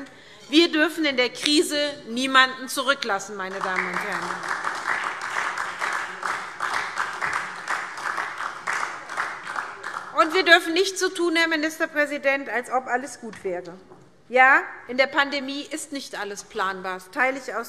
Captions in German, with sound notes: Wir dürfen in der Krise niemanden zurücklassen. [Beifall SPD] Herr Ministerpräsident, wir dürfen nicht so tun, als ob alles gut wäre. Ja, in der Pandemie ist nicht alles planbar. Das teile ich ausdrücklich.